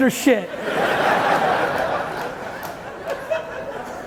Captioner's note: audience laughing